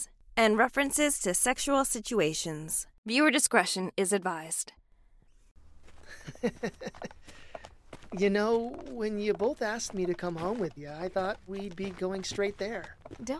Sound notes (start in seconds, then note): 6.0 drunken chuckle